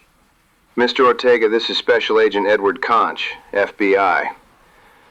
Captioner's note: agitated, tired